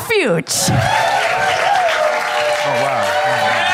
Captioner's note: applause